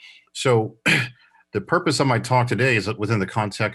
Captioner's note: coughs